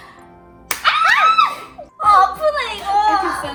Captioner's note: screaming...!!